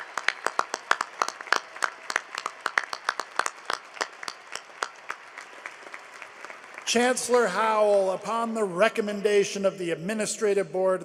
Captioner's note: applause